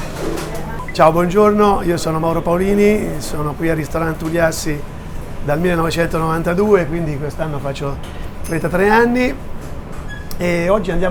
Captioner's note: Italian